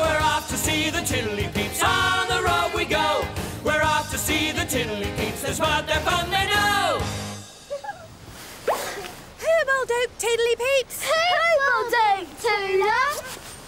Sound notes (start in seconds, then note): 7.6 children laugh; 13.4 wind blows